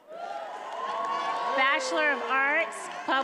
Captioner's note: attendees applauding and cheering